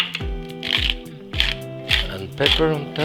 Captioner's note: grinding